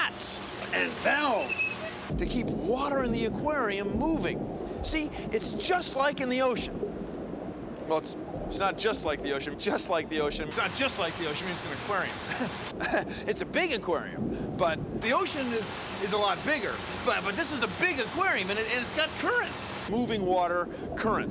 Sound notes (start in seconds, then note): 12.0 laughs